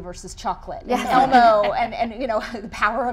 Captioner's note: chuckling